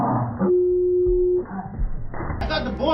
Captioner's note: beep